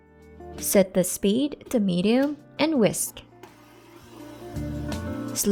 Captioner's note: mixer running, Music